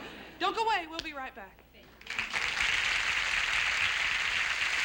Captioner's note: applause